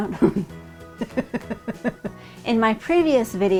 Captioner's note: laughing